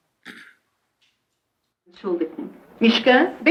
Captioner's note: speaking yiddish